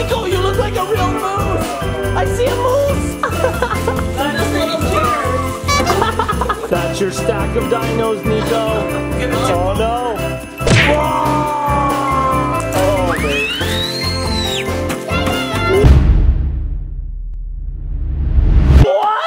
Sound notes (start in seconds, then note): 15.0 screams; 15.8 dramatic tones